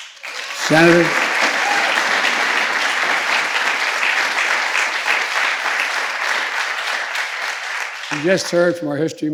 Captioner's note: applause